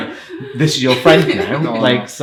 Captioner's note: irish laughing